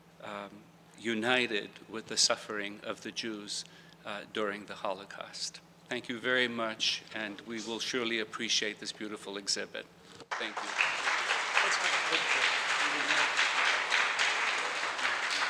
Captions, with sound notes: with the suffering of the Jews during the Holocaust. Thank you very much and we will surely appreciate this beautiful exhibit. Thank you. (audience applauds)